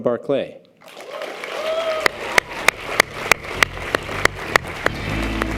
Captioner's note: audience applause